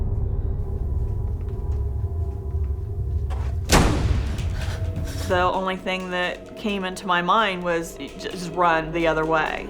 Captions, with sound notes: (door slams) The only thing that came into my mind was, just run the other way.